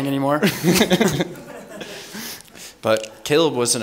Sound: laughs

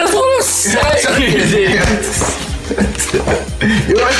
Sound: laughing

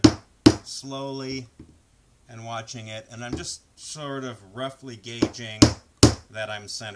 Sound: hammer sounds; hammer sounds

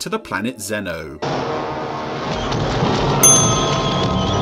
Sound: loud crashing; bell dings

